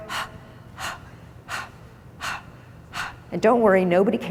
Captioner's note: exhales